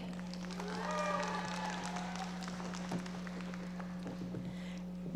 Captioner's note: audience applauding